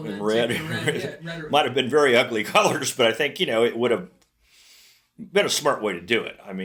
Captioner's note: laughs; laughs